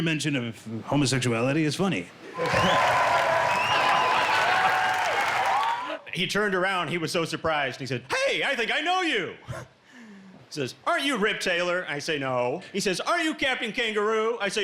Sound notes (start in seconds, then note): 2.3 crowd cheering